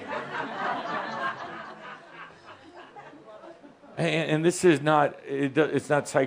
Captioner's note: some laughter